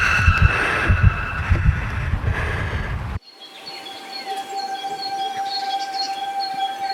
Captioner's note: screaming; birds chirping